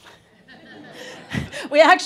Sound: audience laughing

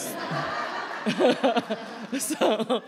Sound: laughter

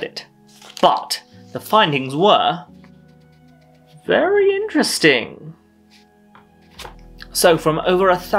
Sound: opening envelope

